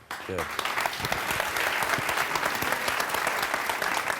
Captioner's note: applause